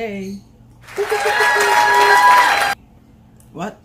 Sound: cheers

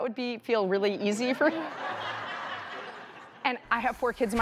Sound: audience laughing

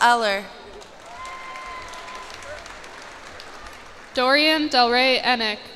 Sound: cheers and applause

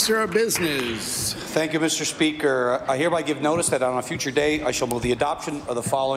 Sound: applause

